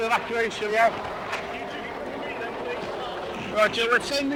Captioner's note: water drowns out speaker